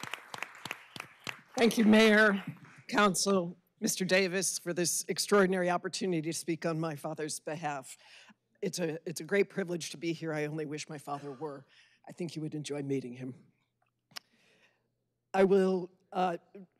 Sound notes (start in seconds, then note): 0.0 applause